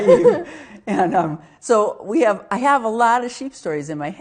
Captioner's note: both laughing